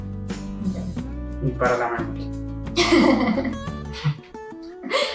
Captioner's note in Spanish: risas